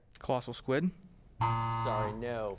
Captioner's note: buzz